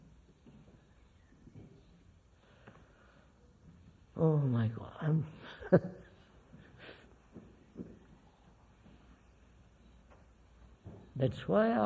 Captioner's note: laughs